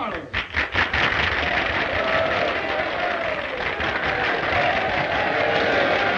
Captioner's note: audience applauding and cheering